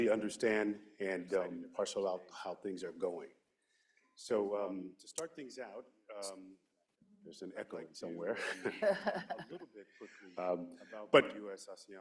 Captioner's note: laughter